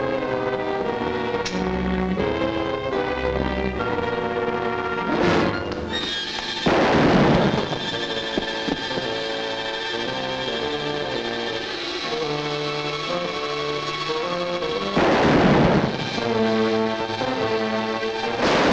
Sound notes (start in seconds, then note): 1.6 light clicks on; 6.0 suspenseful music; 6.6 gun fires; 8.4 suspenseful music; 14.8 gun fires; 16.6 suspenseful music